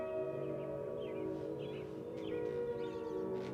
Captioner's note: birds chirping